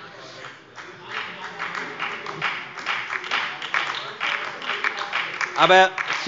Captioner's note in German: Beifall bei der FDP, der SPD und der LINKEN